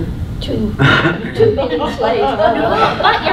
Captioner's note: loud laughter